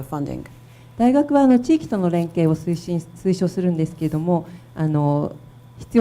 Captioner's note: speaking foreign language